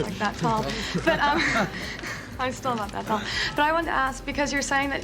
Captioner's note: chuckles